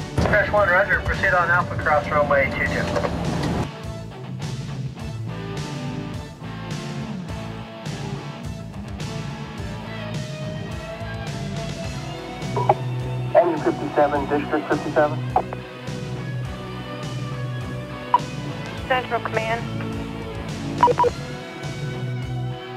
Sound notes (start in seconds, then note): 0.0 upbeat music; 3.3 upbeat music; 13.2 radio chatter; 20.8 upbeat music